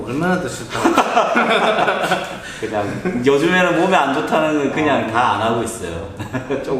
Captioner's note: laughs